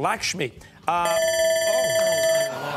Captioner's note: timer sounding